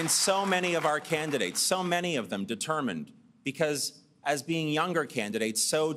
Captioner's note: applause